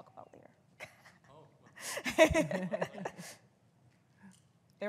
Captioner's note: all laughing